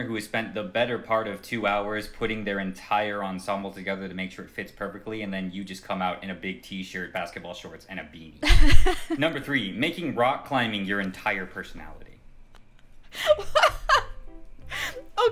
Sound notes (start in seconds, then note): 8.5 light laughter; 13.2 laughs